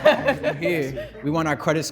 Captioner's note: laugh